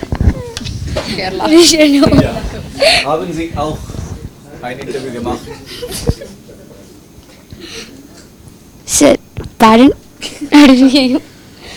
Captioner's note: students laugh